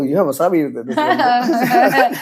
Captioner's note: laughs